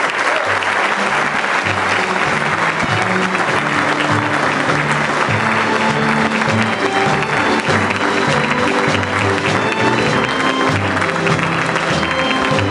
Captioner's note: applause